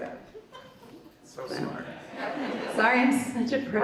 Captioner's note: audience laughs